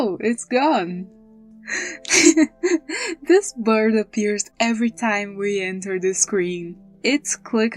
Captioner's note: laugh